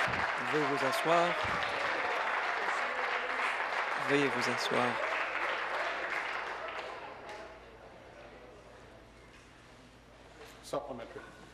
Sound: applause

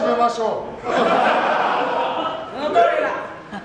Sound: laughs

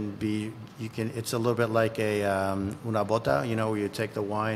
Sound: speaking foreign language

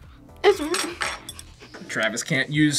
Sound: laughs

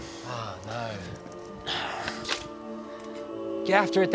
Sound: sword clicking

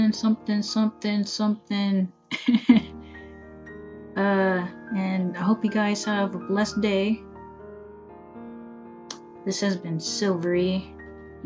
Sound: laugh

